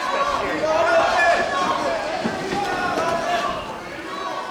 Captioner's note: indistinct shouting